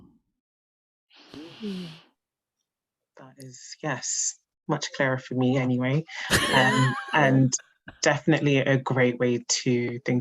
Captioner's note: laughs